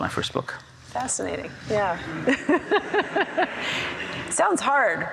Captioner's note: laughs